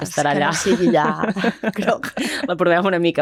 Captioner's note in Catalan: rialles